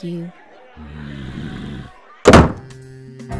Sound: Bao growls angrily

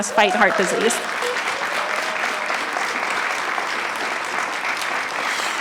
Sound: clapping and cheering

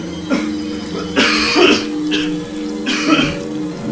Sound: Adam coughing

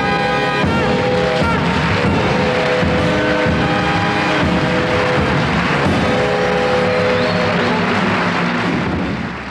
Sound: audience applauding

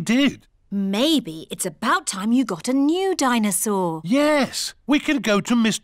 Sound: none

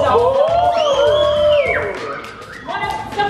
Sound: group cheers

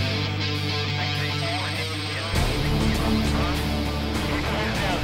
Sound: radio chattering

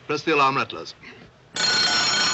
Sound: rings

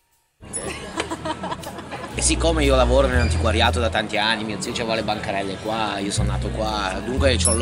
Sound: laughing

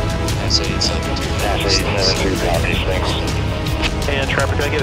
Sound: radio chatter

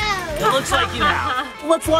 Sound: laughing

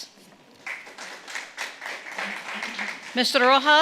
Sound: audience clapping

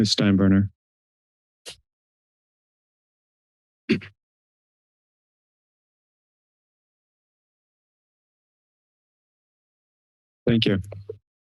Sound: silence; pause

